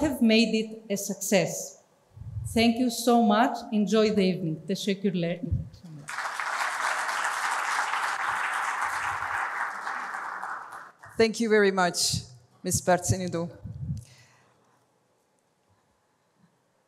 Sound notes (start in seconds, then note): 4.8 Turkish; 6.0 applause